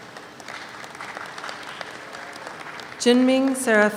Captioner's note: audience applauds